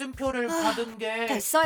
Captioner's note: Zumi Sighed